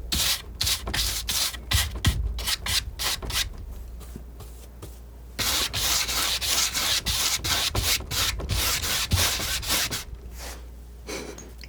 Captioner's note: scratching